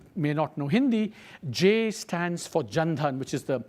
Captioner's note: speaks foreign language